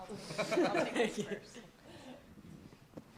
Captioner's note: laughter